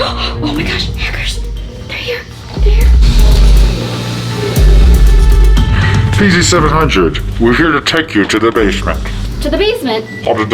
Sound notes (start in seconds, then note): 0.0 gasps; 3.3 dramatic music; 3.3 hackers chattering faintly